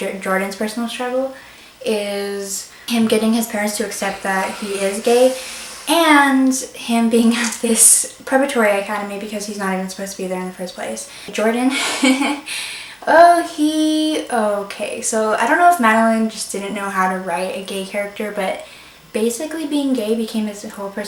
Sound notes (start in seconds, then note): 11.6 laughs